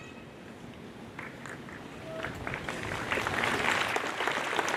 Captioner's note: audience applauds